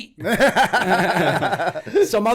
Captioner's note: laughter